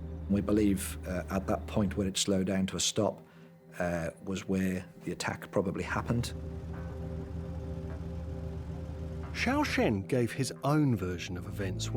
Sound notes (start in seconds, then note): 0.0 intense music; 0.0 vehicle engine rumbles; 5.5 intense music continues; 5.8 vehicle engine rumbles